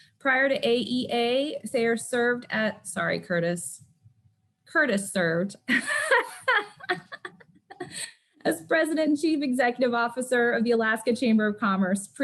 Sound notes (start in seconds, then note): 5.7 laughs